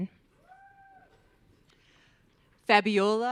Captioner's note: audience cheering